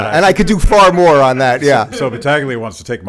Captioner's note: laughs in background